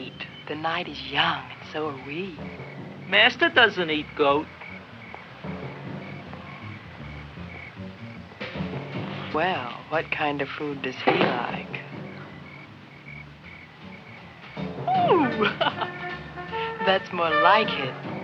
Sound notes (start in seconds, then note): 14.8 laughs